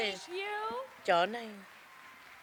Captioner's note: cheers and applause